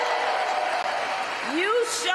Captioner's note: applause